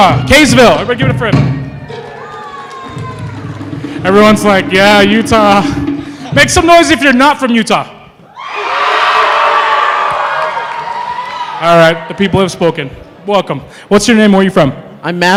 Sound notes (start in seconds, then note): 2.1 applause; 8.2 cheering